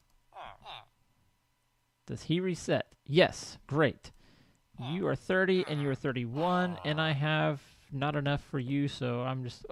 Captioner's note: laughs; chattering continues